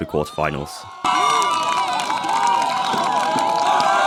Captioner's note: applause